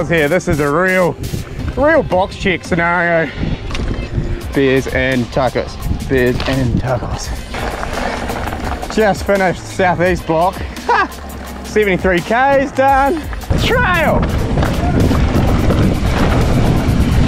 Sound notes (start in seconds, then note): 7.9 bike clatters; 10.4 laughs